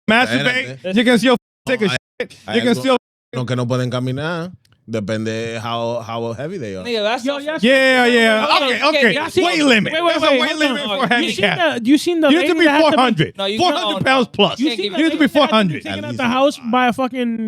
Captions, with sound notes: masturbate, you can still take a you can still (Speaking In Foreign Language) Yeah, yeah, okay, okay. Weight limit, that's a weight limit for handicapped. You seen the-- You need to be 400. 400 pounds plus. You need to be 400. You need to be taking out the house by a